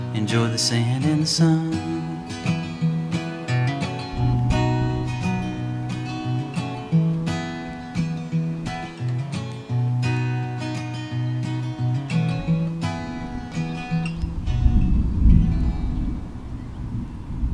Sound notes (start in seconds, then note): 4.9 mellow guitar music continues; 11.8 birds chirping; 14.5 thunder rumbling